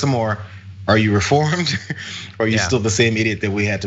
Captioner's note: laugh